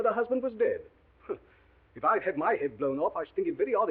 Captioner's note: scoffs